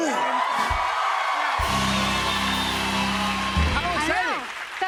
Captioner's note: cheers and applause